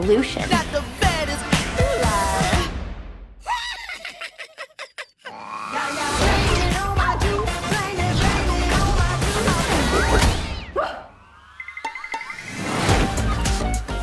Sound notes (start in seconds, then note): 3.5 laughs